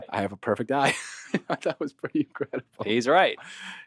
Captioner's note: laughing